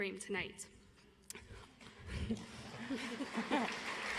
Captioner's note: audience applauds